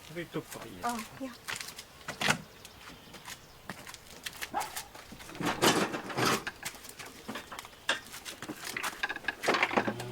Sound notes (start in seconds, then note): 2.3 door opens, clatter of sewing machine